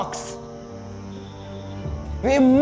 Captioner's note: creepy whispering